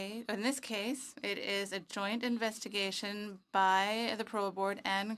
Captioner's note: speaking French